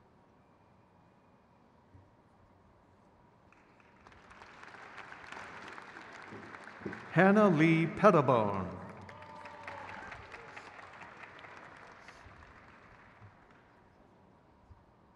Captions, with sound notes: Abril Rodriguez Medina. (crowd cheers)